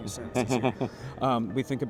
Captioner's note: laughs